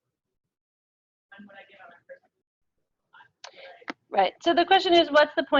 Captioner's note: audio drops